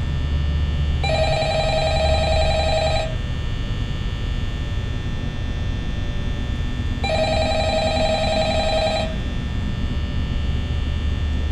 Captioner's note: phone Rings